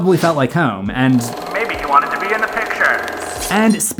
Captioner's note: old timey movie voice